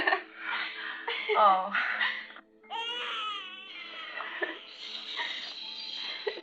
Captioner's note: laughter